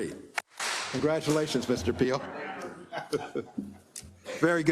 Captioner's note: applause